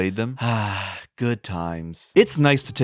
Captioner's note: sigh